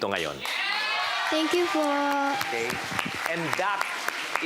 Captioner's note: crowd cheers, applauds